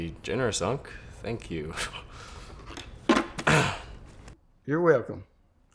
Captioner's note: clears throat